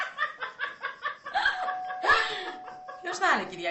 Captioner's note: doorbell rings